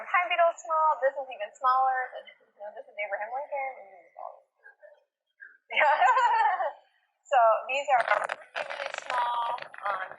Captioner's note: laughter